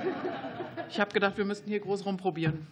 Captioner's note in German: Lachen